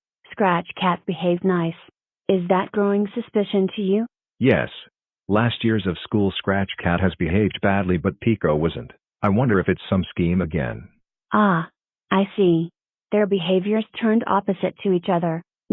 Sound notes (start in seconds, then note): none